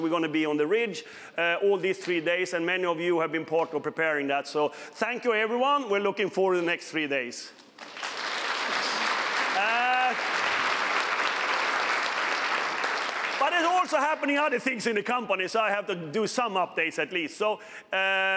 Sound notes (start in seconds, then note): 11.2 applause